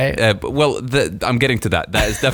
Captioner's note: laughing